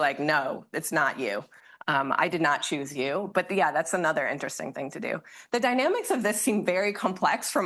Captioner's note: none